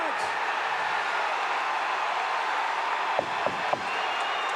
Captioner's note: audience cheering